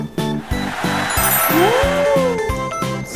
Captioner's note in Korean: 환호